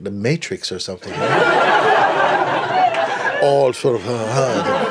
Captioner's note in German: Lachen